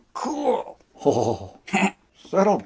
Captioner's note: chuckling